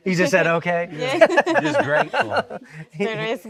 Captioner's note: laughing